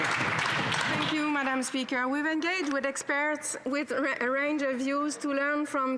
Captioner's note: some Applause